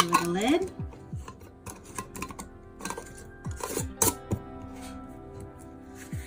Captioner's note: lid clanging